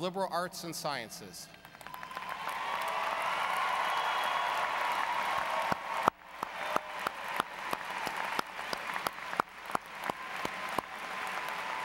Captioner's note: applause